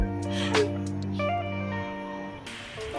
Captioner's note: suddenly starts crying